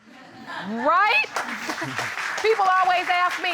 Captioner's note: audience laughing